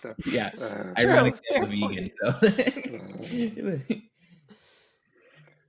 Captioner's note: laughs